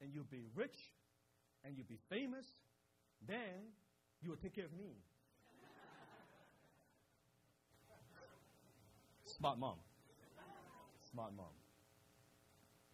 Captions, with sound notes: "and you'll be rich and you'll be famous. "Then, you will take care of me." (crowd laughs) That's my mom, that's my mom.